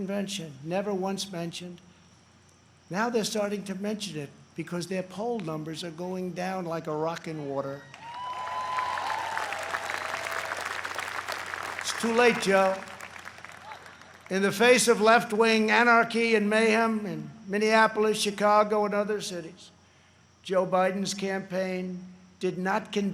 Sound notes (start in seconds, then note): 12.6 applause